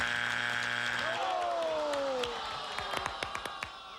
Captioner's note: audience moans